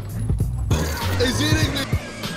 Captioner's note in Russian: сердитые звуки инопланетного монстра